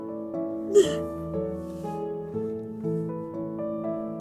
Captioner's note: crying